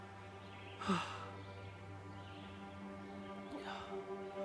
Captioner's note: Arawn breathing heavily; soft dramatic music continues